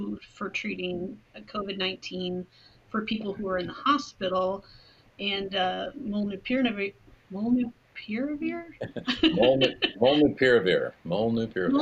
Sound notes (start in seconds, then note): 8.8 laughing